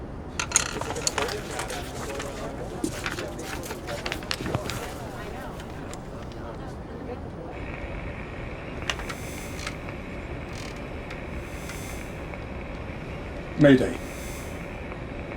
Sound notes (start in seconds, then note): 0.2 pencil rolling; 2.7 paper rustling